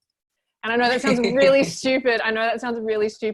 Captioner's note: laughs